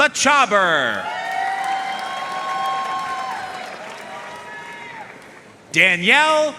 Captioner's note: audience cheering and applauding